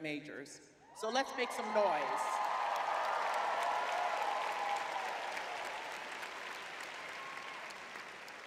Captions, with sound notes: majors. So let's make some noise. [crowd cheering]